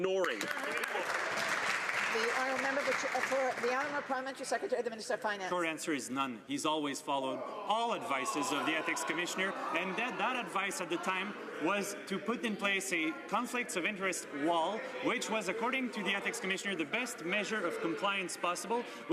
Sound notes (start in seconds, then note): 4.1 some Applause